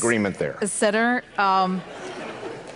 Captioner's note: audience laughs